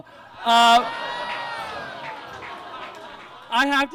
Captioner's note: audience laughs